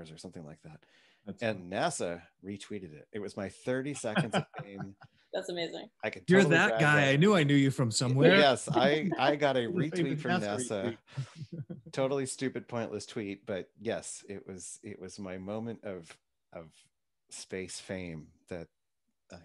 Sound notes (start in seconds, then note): 4.0 laughs